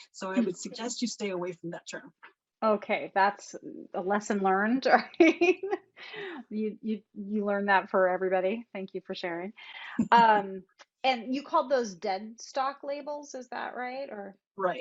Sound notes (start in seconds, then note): 6.1 laughs; 9.9 chuckles